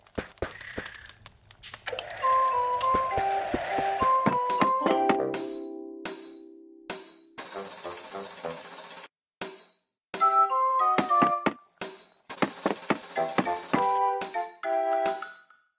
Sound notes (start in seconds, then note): 2.1 TV Sound; 2.1 snoring; 4.1 footsteps; 4.1 tambourine sound; 13.6 tambourine sound